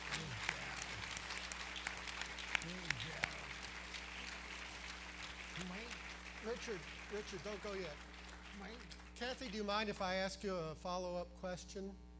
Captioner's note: applause